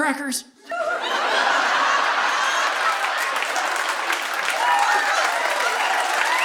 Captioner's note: audience laughing; audience applauding